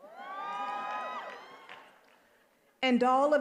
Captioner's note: attendees applauding and cheering